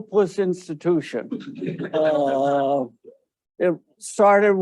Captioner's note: audience laughing